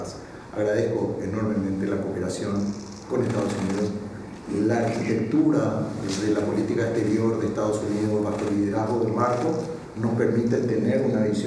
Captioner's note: in Spanish